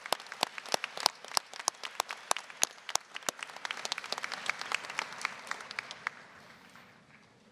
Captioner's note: applause